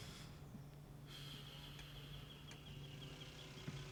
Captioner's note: birds chirping